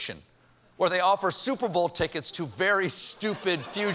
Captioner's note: laughter